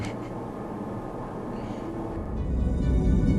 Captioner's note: laugh